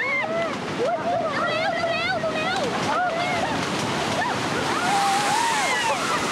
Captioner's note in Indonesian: suara gelombang tsunami; suara teriakan